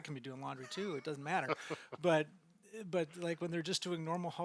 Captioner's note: laughing